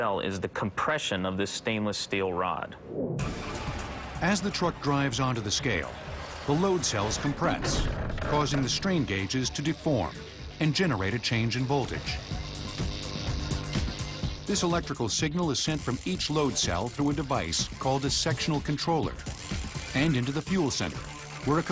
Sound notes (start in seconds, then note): 13.0 electrical buzzing